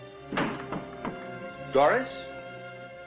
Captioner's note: knocking